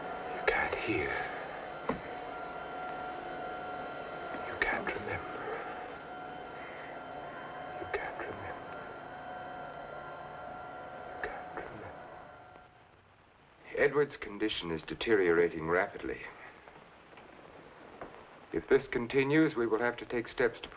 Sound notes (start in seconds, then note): 7.8 whispering